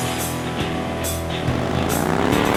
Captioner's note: engine rumbles